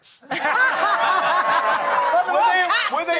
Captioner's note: laughing